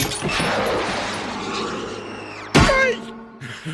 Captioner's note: whooshing; thudding